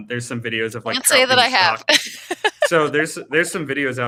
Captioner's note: laughing